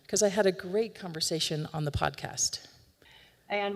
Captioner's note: recording plays